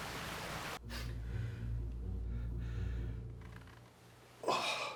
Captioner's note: uptempo suspenseful music; Addison gasps; chair creaks; Addison groans